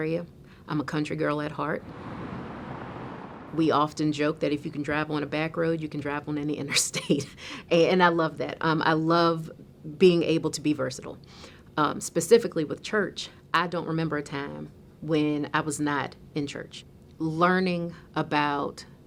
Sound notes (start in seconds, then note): 1.8 car engine revving